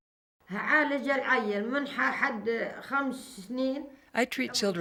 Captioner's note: speaks in foreign language